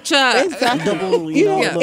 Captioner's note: laughter